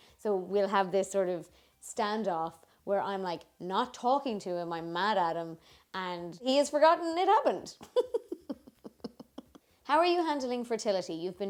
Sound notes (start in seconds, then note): 7.9 laughs